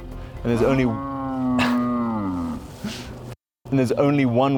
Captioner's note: cow moos